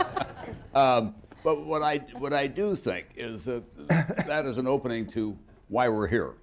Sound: laughter

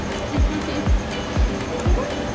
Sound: laughter

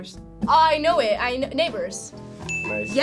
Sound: bell chiming

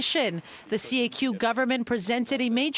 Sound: speaking French

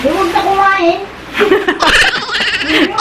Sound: laughs

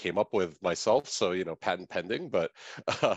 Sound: chuckles

